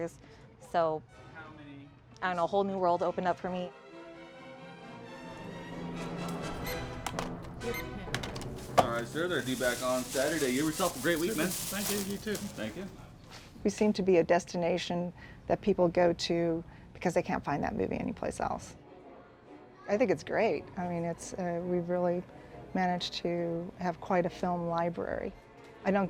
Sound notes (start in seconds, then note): 3.9 dramatic music; 6.6 scanner beeping